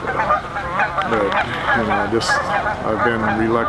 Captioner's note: geese honk loudly